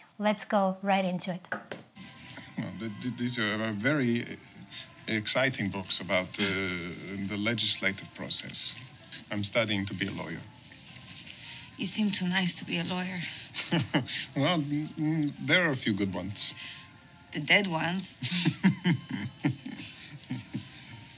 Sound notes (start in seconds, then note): 13.4 laughs; 18.2 Maurizio laughs